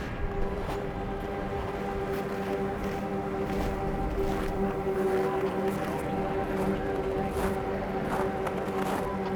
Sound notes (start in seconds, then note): 0.4 suspenseful music; 4.0 snow crunching beneath footsteps